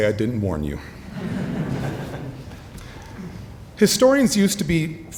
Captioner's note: audience laughing